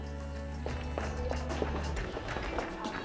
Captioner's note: laughs